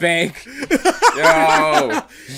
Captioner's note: laughs